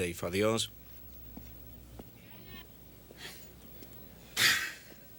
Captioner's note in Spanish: pássaros cantando; Dave suspira